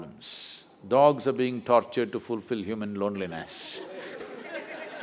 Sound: laughter

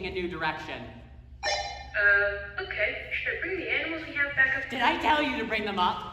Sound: chirp

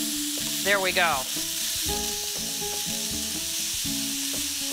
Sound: sizzling

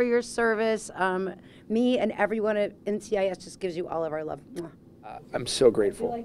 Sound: kiss

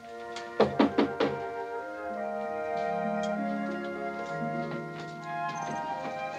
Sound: gentle music; knuckles rapping

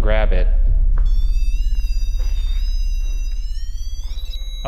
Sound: tool beeps

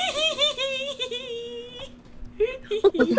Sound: more giggling from cat

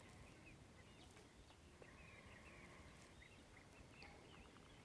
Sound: birds chirping

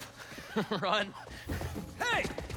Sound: laughs

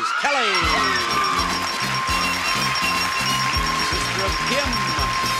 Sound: audience cheers and applauds; counter beeps

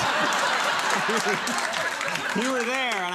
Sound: crowd laughing

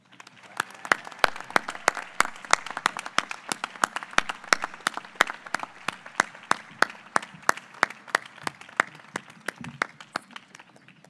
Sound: applause

